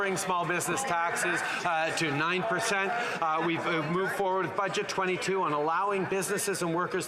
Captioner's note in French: voix de l'interprète